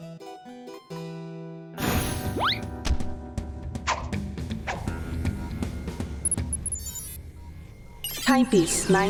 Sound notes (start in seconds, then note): 5.8 beeps; 7.7 robot voice